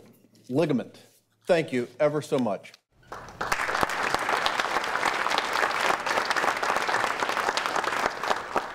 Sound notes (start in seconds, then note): 3.0 audience applauding